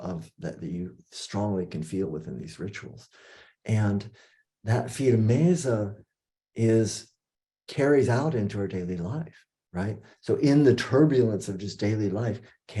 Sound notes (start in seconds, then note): 4.4 non-english speech